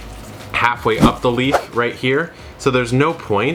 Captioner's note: logo whooshing